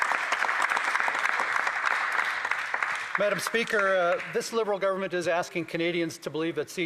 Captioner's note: applause